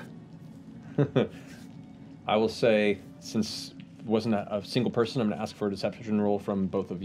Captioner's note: chuckles